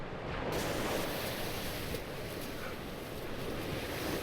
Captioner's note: waves crashing